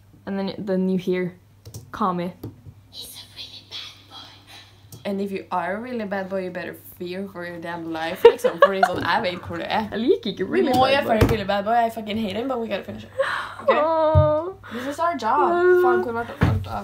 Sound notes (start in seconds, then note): 13.1 sobbing in the background